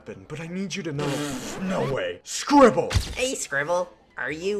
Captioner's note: spits